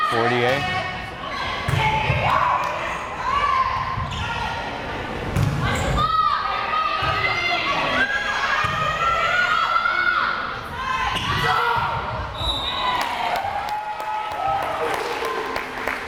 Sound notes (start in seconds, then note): 5.7 players shouting; 12.3 whistle blares